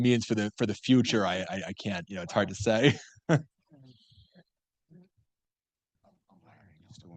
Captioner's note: laughs